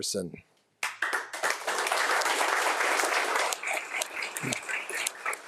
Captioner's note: audience applauding